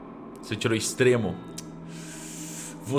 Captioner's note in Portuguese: tsc